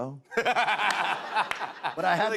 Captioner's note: laughs